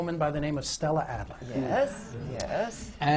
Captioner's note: murmurs from the audience